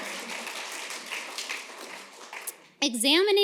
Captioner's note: applause